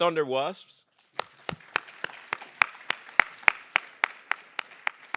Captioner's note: applause